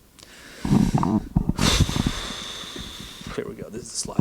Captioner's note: long exhale